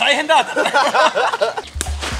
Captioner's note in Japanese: 3人の笑い; 羽根を蹴る音